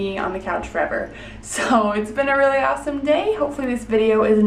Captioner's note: laughing